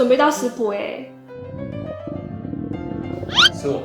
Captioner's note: rolling belly